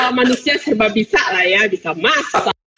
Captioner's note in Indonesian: Tertawa